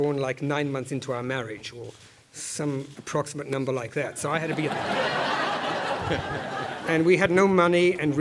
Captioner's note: laugh